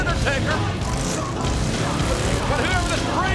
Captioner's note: engine revving